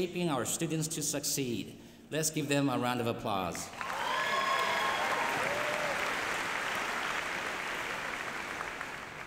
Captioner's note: applause